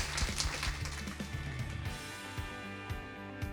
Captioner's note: clapping